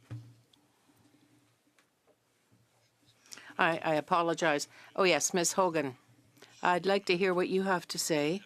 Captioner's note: speaking French